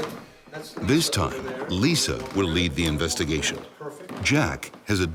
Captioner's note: voiceover